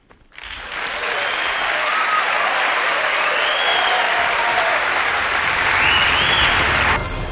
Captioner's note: applause